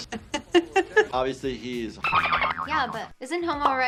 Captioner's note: laughs; dolphin chitters